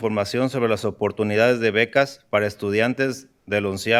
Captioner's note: speaking in spanish